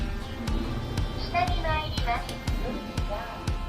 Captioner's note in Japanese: エレベーター音声